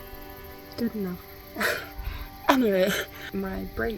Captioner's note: giggles